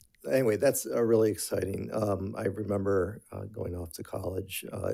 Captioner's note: none